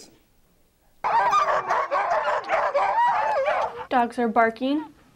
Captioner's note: barking